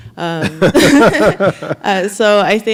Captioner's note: laughing